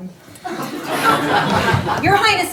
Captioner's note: audience laughing